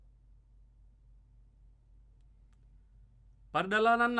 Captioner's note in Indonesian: silent